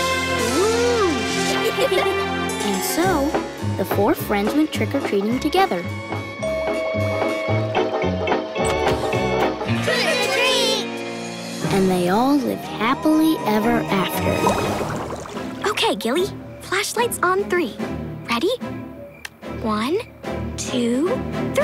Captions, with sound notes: Whoo. [giggling] And so, the four friends went trick or treating together. [doorbell ringing] Trick or treat. And they all lived happily ever after. Okay, Gilly, flashlights on three. Ready? One, two, three.